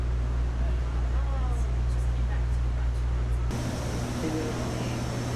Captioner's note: chatter